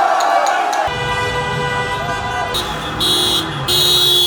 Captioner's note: car horns honking